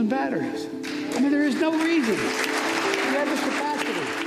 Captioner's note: audience applauding